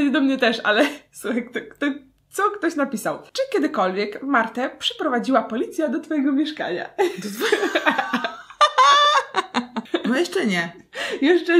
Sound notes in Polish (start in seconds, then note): 7.0 śmiech